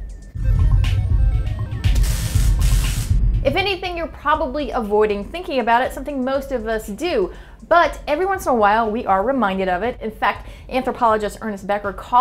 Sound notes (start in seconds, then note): 1.9 zapping